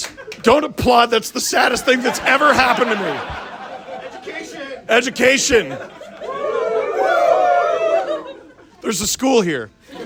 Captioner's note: crowd: education!